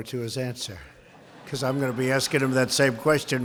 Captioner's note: laughter